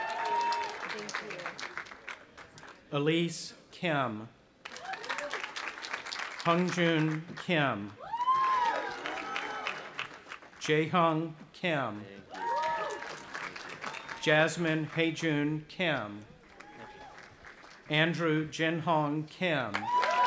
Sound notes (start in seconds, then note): 0.0 audience applauding and cheering; 4.6 audience applauding; 7.9 cheering; 12.2 cheering; 16.2 audience applauding; 19.7 audience applauding and cheering